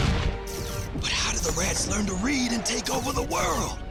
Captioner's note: hushed